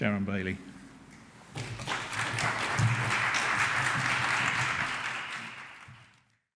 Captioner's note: applause